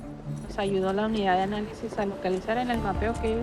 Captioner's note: female officer speaking spanish